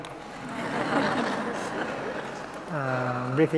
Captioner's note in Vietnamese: tiếng cười